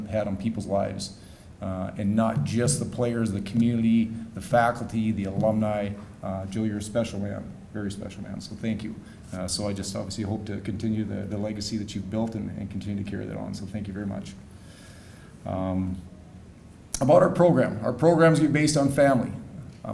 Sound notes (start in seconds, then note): none